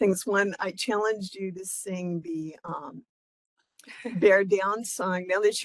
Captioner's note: laugh